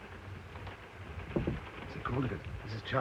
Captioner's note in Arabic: يطرق بلطف